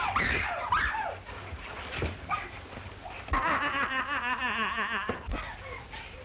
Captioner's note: screaming; mad laughter